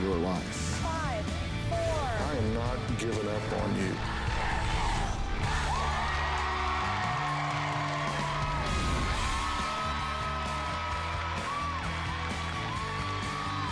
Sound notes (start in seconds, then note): 3.9 crowd chanting "dr. phil!"; 8.7 cheering and applause